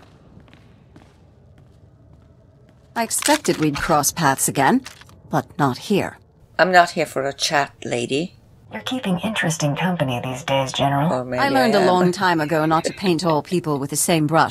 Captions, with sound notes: I'm not here for a chat, lady. Or maybe I am. (chuckles)